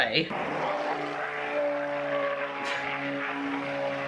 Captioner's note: blender whirs